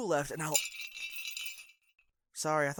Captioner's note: bells ring